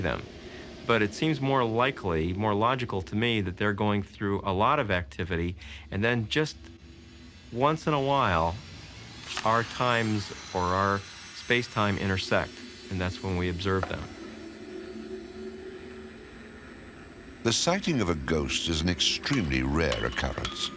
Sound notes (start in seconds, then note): 14.0 whooshing